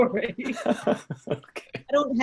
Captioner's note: laughs